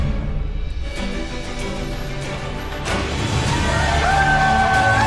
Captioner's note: cheering